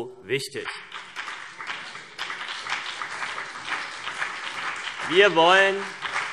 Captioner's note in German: Beifall CDU und BÜNDNIS 90/DIE GRÜNEN